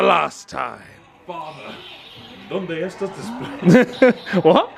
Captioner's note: speaking in foreign language